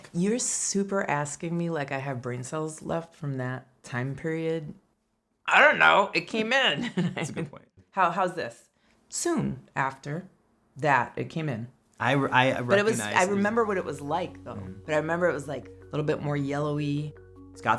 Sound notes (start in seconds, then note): 6.8 laughs